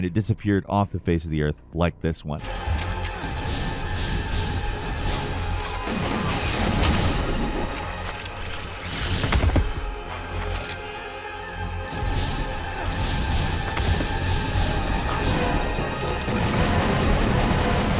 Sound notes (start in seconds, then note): 2.9 guns blasting; 2.9 intense dramatic music; 11.8 gun blasting